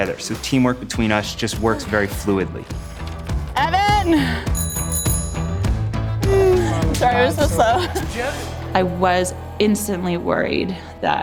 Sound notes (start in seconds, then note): 3.6 bell ringing; 6.8 yells in foreign language